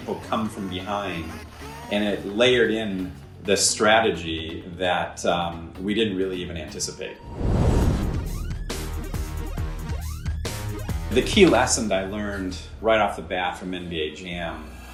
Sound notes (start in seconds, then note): 7.2 fire roaring; 7.5 intense electronic music